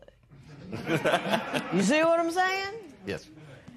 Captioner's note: laughter